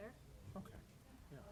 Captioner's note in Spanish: hablar en voz baja